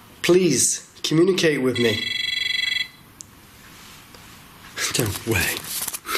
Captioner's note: high-pitched buzzing